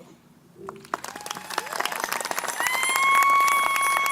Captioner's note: crowd applauding